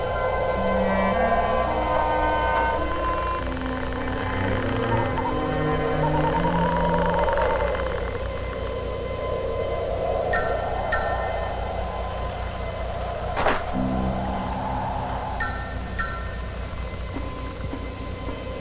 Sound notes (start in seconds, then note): 13.3 wood knocking; 15.9 eerie music